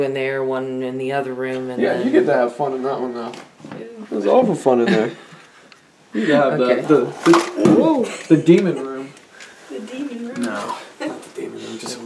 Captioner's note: chatter